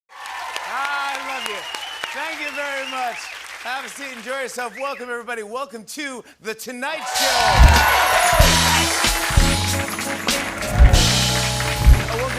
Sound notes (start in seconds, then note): 3.2 cheering, whistling, and applause; 7.0 cheering and applause